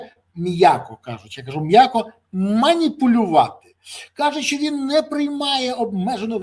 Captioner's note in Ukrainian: сопіння